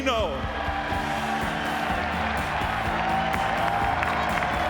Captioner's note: audience cheering